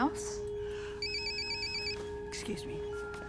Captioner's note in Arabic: رنين الهاتف